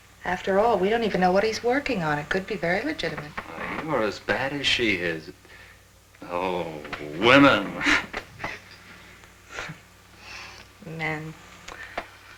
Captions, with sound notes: After all, we don't even know what he's working on, it could be very legitimate. You're as bad as she is. Oh, women. (scoffs) Men.